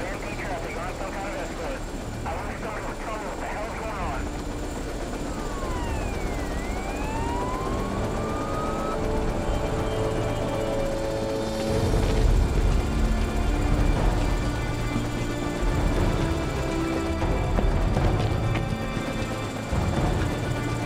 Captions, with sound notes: Traffic on some kind of escort. I wish someone would tell me what the hell's going on. (siren wails)